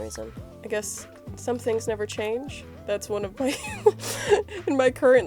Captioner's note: laughs